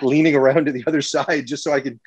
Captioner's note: chuckles